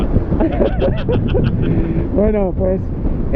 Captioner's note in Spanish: risas